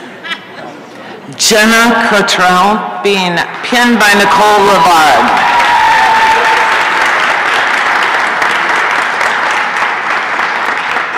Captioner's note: applause and cheering